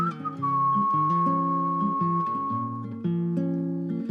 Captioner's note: whistling